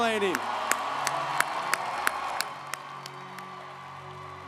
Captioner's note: audience applauds